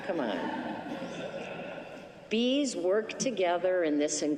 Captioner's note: laughter